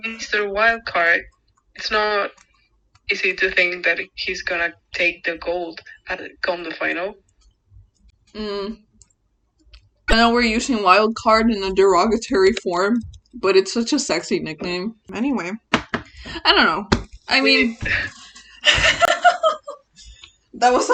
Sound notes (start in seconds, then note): 18.4 both laugh